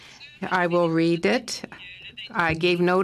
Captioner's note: speaking FRENCH